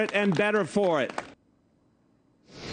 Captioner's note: applause